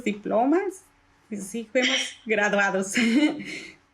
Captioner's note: laugh